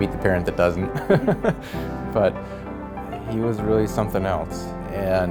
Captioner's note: laughs